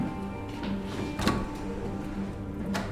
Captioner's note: Tuello opens the door offscreen